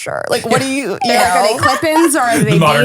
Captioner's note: laughing